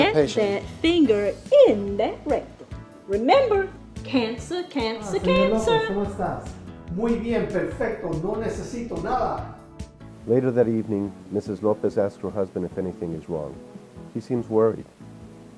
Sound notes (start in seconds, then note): 5.8 doctor speaking Spanish; 6.8 patient speaking Spanish